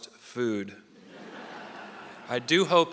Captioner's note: audience laughing